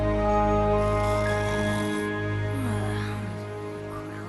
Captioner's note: Spike snores, sighs